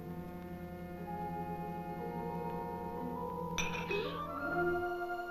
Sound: clank

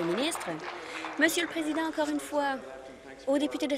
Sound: applause

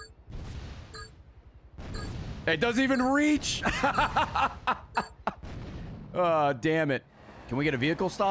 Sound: laughs

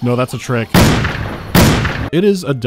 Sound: pow, pow

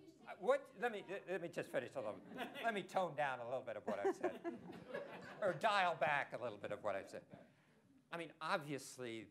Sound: laughter

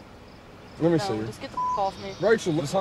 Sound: beep

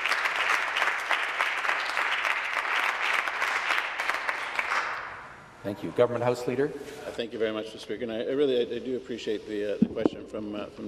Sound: some Applause

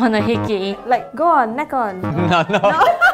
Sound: buzzer buzzes

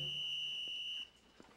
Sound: whistle owbling

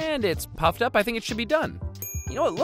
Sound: bell dings

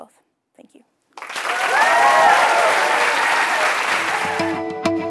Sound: applause

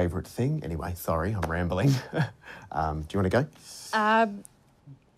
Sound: laughs

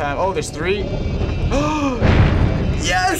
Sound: crash; gasps

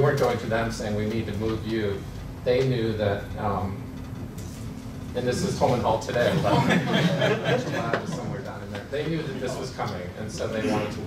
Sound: laughter

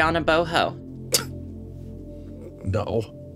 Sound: scoffs

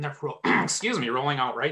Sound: clears throat

